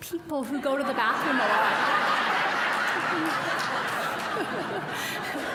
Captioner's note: audience laughing; laughing